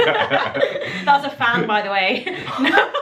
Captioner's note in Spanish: giggles; laughing